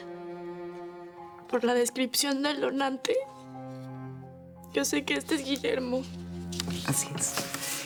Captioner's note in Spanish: Entre sollozos